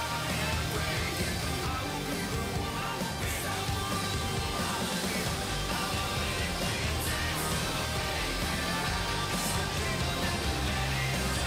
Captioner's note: crowd chatter